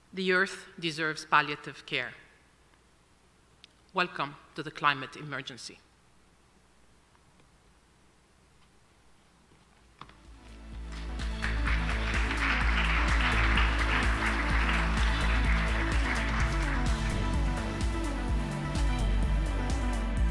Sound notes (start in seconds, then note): 10.8 audience applauding; 17.1 gentle upbeat music